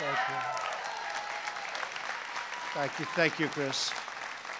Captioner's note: applause